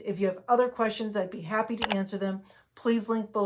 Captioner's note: cursor clicking